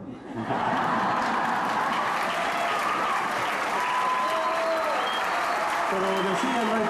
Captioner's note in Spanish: Risas, aplausos